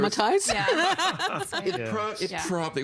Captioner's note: all laughing